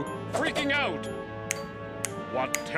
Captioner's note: fingers snap